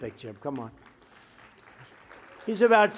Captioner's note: applause